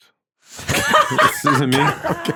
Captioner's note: laughing